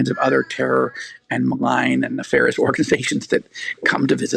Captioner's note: laughing